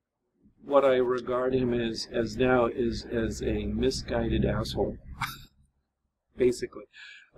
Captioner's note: laughs